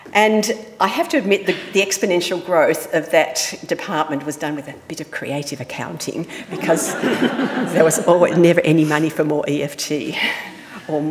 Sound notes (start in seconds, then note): 6.4 audience laughing